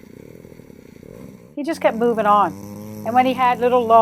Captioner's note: plane engine whirring